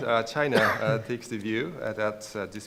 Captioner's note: cough